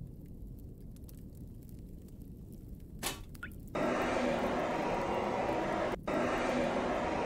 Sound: machine whirring

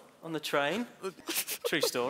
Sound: snickering

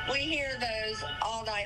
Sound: nat sirens

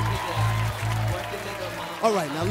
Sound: cheering and applause

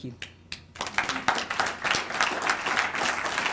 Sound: audience applauds

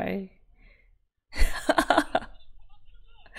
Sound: laughs

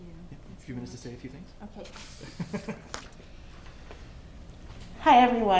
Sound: laughter

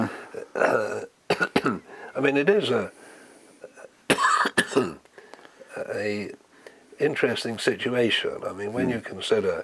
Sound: cough

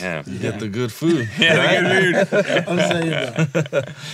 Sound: laughing

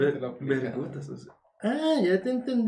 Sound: guys imitating foreigners

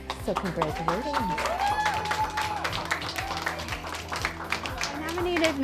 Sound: cheers & applause

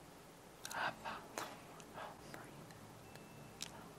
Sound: whispers lyrics

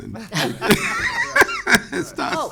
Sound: laughing

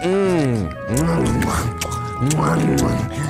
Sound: swallows

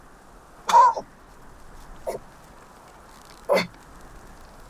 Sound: man coughing

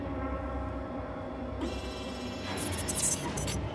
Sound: robotic sounds

